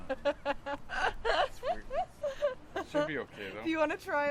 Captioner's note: laughs